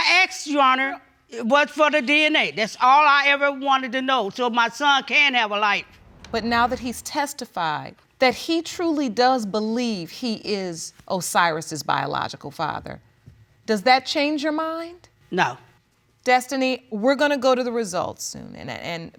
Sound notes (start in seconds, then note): none